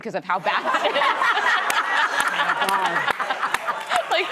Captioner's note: laughter